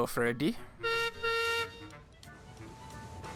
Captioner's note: peter sam whistles